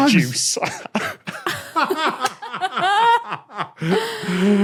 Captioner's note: group laughing